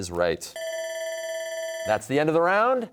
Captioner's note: bell rings